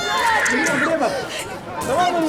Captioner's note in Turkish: bağirişmalar